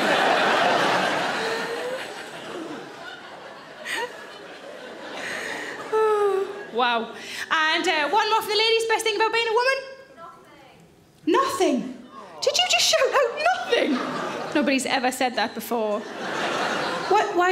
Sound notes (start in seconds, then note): 0.0 audience laughs; 5.8 Sarah sighs; 15.5 audience laughs